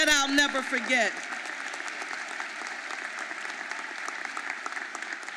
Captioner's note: audience applauding